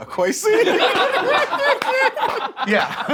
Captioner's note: laughs